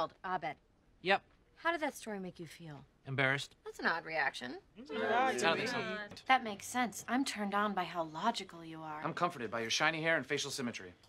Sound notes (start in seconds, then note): 4.8 group makes various sounds of disagreement